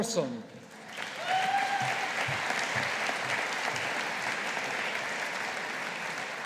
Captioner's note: audience applauding